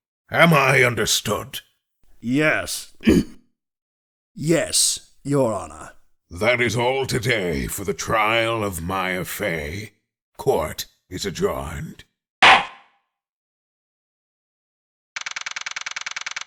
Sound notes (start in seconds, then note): 2.8 ahem; 12.4 slam!